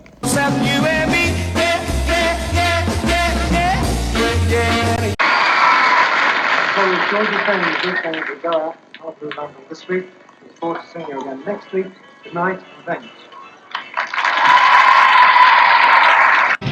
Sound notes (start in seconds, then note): 5.2 screams and applause; 13.7 cheers and applause